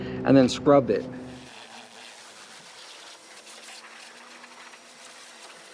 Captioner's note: pressure washer whirring